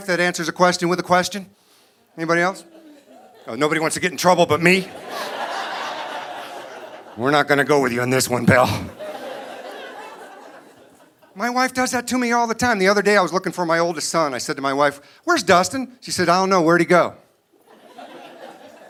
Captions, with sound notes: a question with a question? Anybody else? Oh, nobody wants to get in trouble but me? We're not gonna go with you on this one, pal. (audience laughing) My wife does that to me all the time. The other day I was looking for my oldest son, I said to my wife, "Where's Dustin?" She said, "I don't know, where'd he go?"